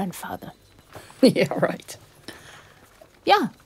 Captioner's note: chuckles